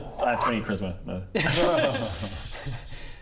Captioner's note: unfooled laughter